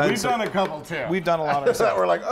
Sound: laugh

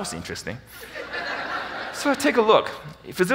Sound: audience laughing

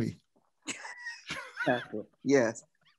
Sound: laughs

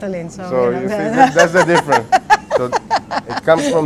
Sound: laughter

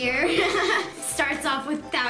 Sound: laughing

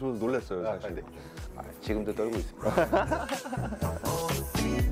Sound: laughter

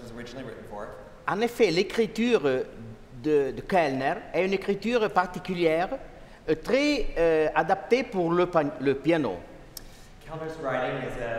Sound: speaking french

